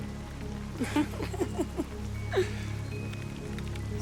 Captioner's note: giggles